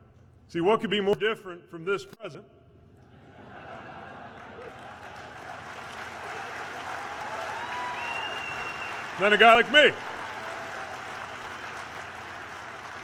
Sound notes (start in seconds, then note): 4.1 applause